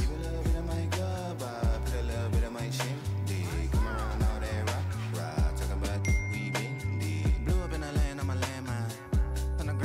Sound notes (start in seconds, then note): 1.5 R&B music; 6.0 bell dinging